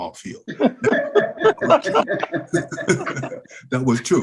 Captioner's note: all laugh